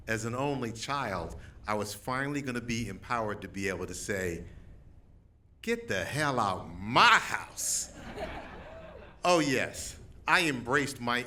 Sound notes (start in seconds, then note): 7.8 laughter